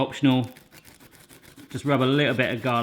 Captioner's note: scratching